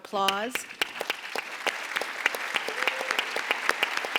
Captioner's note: audience applauds